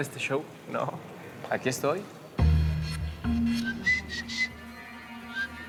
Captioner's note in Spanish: Silbidos